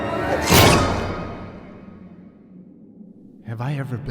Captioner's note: blood squelches